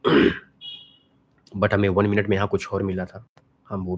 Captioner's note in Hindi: गला साफ़ करने की आवाज़